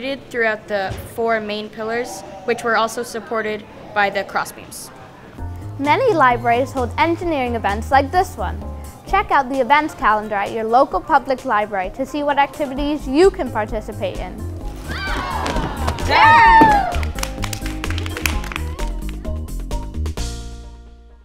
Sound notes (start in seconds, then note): 14.8 surprised shouts; 14.9 cheers and applause